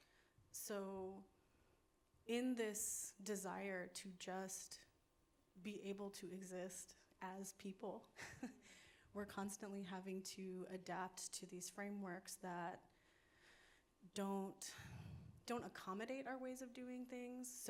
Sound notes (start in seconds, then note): 8.1 laughs